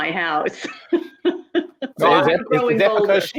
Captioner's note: laughs